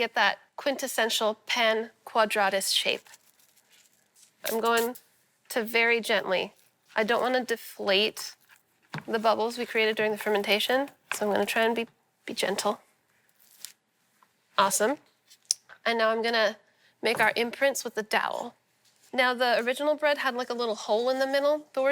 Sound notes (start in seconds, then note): none